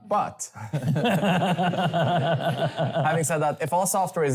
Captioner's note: laughter